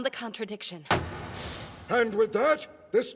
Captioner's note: gavel slam